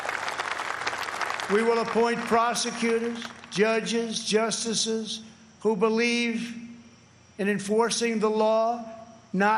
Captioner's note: applause